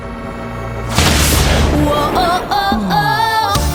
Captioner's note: tense upbeat music; lightening crashing